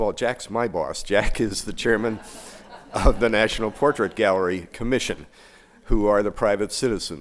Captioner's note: laughter